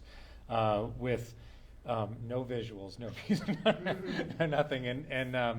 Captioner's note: laughs